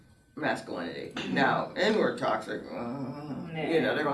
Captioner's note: groans